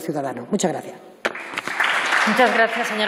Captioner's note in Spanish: Aplausos